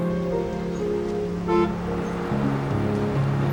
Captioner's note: horn honks